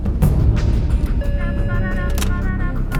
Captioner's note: dramatic music; alarm beeping